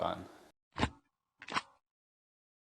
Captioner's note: stamper sounds